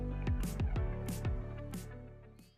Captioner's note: none